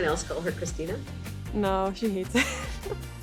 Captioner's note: laughs